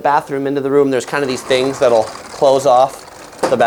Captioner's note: doors shut